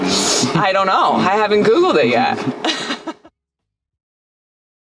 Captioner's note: laughs